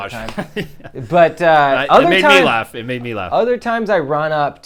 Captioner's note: laughs